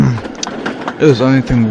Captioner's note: laughes